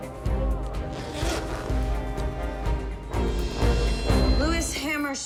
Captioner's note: zipper sliding